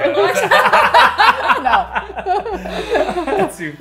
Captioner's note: laughing